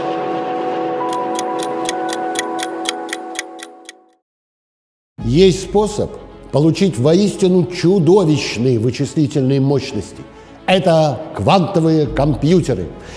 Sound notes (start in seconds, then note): 1.0 sound of the ticking clock